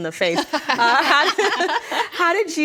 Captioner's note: ladies laughing